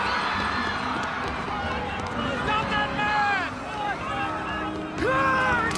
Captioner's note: crowd clamoring; yells